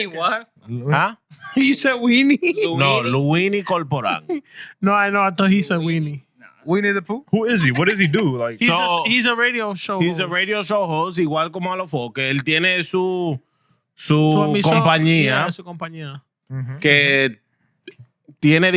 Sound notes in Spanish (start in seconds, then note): 12.3 Hablando en idioma extranjero